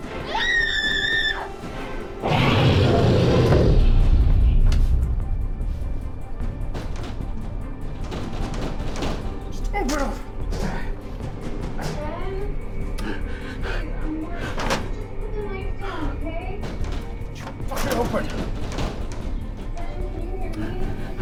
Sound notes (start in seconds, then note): 0.2 screams; 0.2 snarls; 4.1 suspenseful music; 7.5 rattling